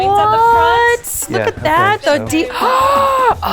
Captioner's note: gasps